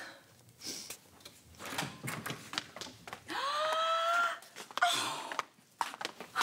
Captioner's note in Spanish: ruido al abrir la puerta; exclamaciones